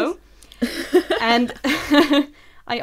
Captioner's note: laughs